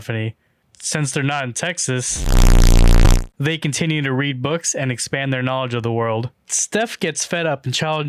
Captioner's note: buzz